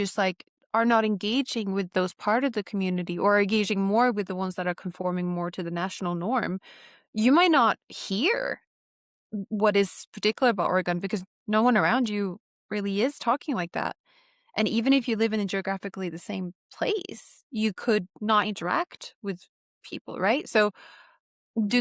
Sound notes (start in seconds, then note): none